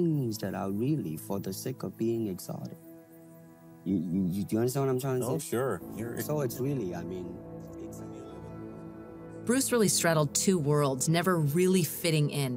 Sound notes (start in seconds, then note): 7.3 conversation fades